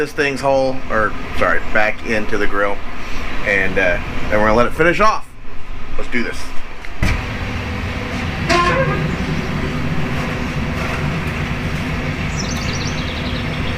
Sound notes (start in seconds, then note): 7.4 BBQ squeaks